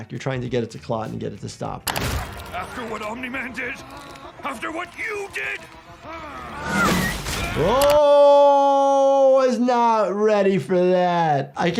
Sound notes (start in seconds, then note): 6.0 Invincible groaning; 6.6 air whistling